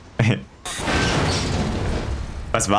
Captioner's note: explosion